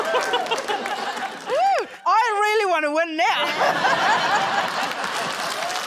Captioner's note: laughs; applause